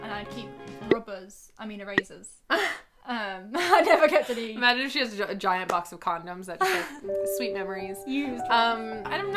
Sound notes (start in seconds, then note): 2.6 laughs; 6.6 laughs